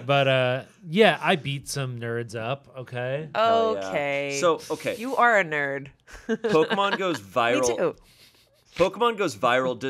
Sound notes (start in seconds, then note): 6.1 chuckling